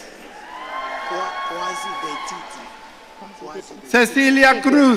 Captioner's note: audience cheering